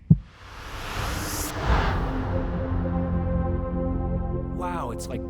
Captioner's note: heartbeat thuds; jet whooshes